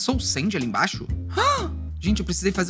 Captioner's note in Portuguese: faz som de surpresa